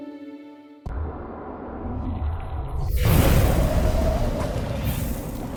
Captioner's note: cheerful music; energetic tones; water sloshing; wind whooshing